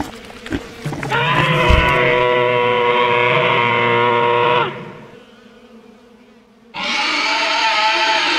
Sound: growling

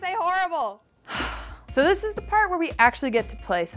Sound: sighs

